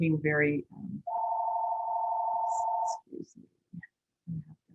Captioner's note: phone rings